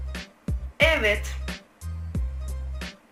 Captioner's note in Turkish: Garip bir ses ile